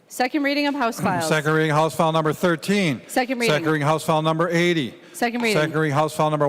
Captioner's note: gavel